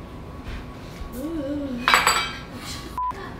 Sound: beep

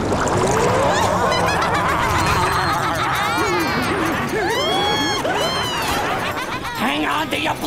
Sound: laughing

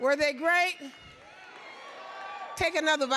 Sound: audience cheering

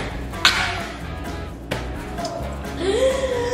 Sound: coughs

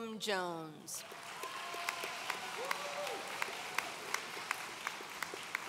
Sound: audience cheering

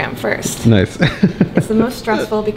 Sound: laughing

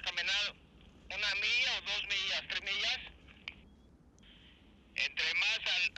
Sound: men on radio speak Spanish

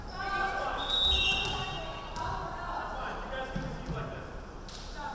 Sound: referee whistling

